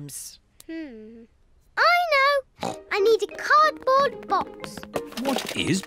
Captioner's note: snorts